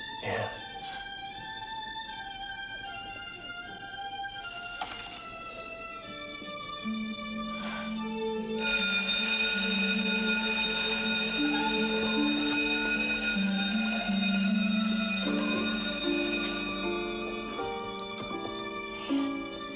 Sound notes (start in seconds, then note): 8.7 bell tolling; 16.2 somber orchestral music